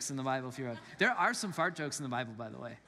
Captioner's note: congregants laugh